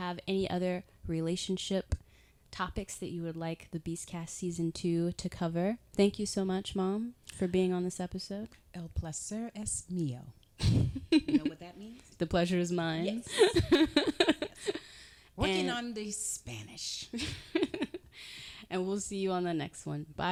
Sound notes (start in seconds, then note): 10.6 chuckling; 13.2 giggling